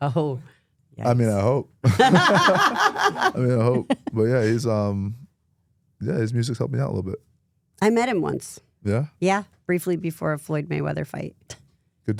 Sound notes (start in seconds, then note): 1.8 both laugh